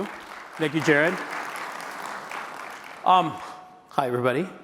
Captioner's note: applause